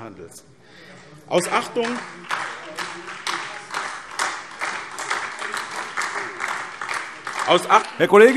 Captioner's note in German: Beifall SPD und vereinzelt DIE LINKE